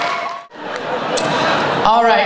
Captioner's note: audience laughter